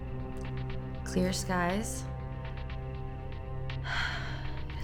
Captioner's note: sighs